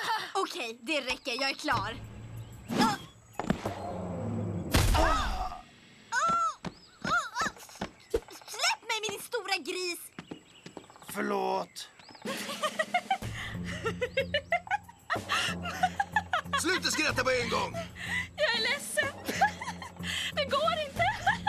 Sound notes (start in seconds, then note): 6.0 muffled protests